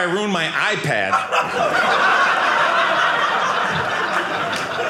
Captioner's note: audience laughing